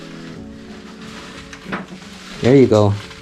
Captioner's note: whispering; shuffling; thumping